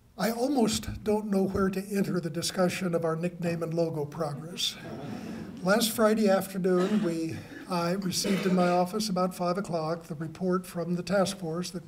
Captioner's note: laughter